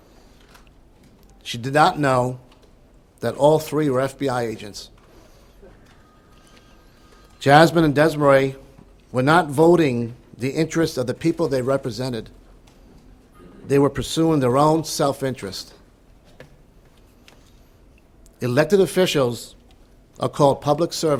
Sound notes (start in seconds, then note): 5.9 phone ringing